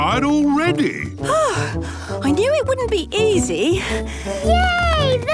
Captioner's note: panting